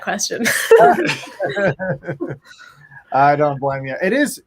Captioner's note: laughing